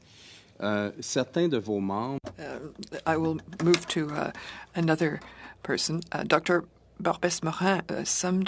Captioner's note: speaking in French